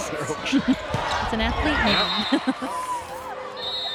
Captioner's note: chuckles